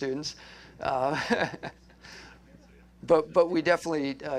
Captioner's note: laughter